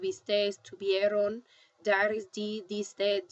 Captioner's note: spanish; speaking spanish